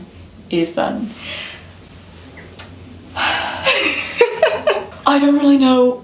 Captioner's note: sigh